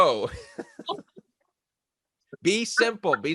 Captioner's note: both laughs